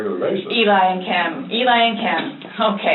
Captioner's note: laughs